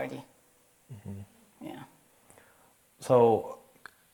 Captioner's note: assents